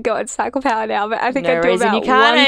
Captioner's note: laughing